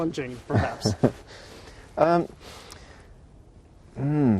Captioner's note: chuckles